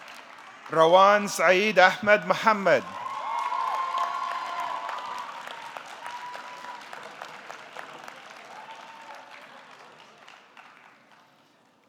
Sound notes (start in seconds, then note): 3.2 audience cheering; 3.2 audience clapping